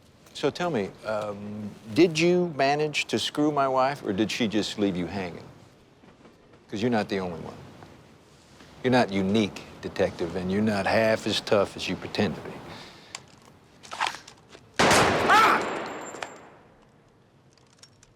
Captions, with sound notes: So, tell me, um, did you manage to screw my wife? Or did she just leave you hanging? 'cause you're not the only one. You're not unique, Detective, and you're not half as tough as you pretend to be. -[GUNSHOT] -[SCREAMS]